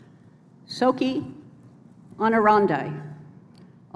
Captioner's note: speaking latin